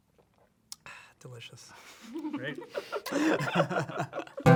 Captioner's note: laughing